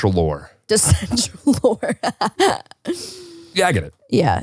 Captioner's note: laughs